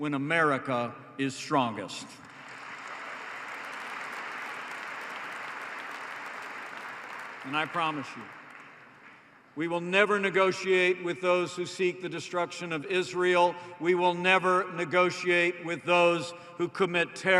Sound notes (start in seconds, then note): 2.2 applause